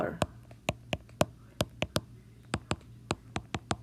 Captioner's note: tapping